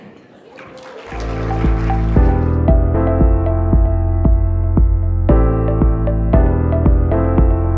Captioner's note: audience clapping; chill music